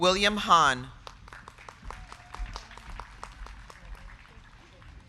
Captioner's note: crowd clapping